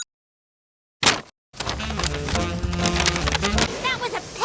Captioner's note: paper breaking, music